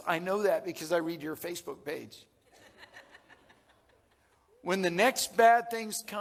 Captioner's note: audience laughing